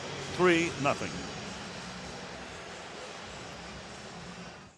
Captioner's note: pa announcement